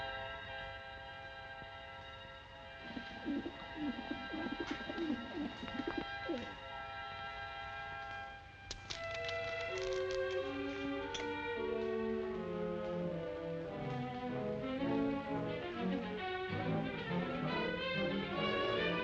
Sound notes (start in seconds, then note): 2.8 doves cooing; 9.1 suspenseful music; 18.3 anxious music